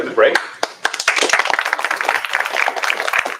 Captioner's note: applause